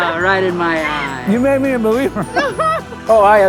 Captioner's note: laughs